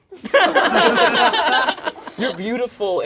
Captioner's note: all laugh